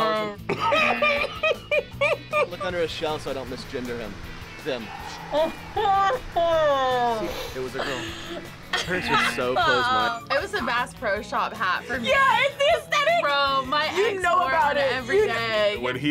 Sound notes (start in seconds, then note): 0.1 buzzer rings; 0.4 laughs; 5.5 laughs; 8.7 buzzer rings